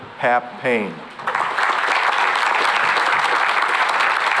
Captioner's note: applause